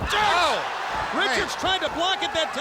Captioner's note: head thudding; body thudding